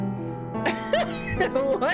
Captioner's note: laughter